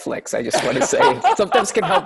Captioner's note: laughter